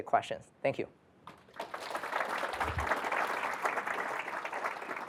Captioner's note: applause